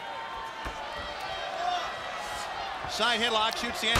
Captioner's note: crowd cheering